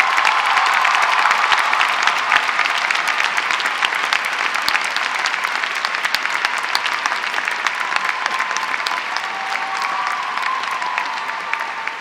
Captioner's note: applause